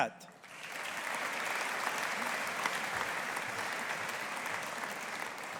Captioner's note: audience applauding